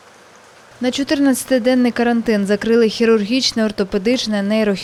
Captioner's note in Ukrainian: шум вулиці